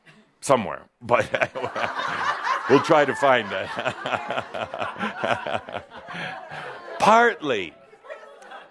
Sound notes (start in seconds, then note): 1.2 laughter; 3.6 Adamus chuckles